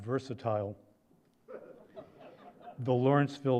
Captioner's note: laughter